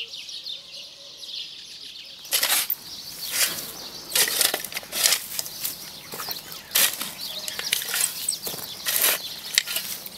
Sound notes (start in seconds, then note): 2.2 shovel scraping; 2.3 birds chirping